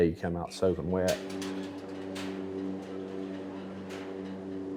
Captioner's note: door rattles